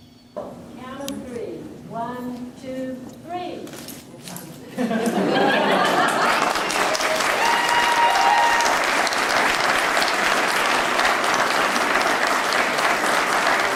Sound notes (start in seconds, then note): 4.7 laughter; 5.8 applause